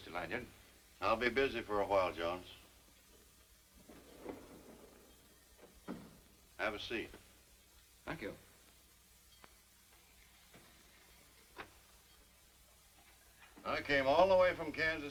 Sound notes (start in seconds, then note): 3.8 door closes